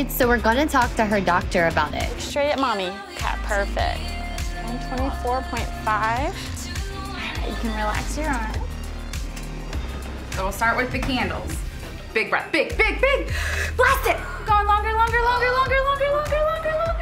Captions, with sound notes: so we're gonna talk to her doctor about it. - Straight at mommy. Perfect. 24.5, you can relax your arm. (background music) - So we'll start with big handles. Big breath. Big, big, big! (inhales) blast it! We are going longer, longer, longer, longer,